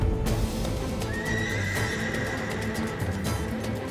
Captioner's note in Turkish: At kişneme sesi